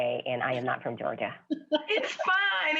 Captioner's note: laughs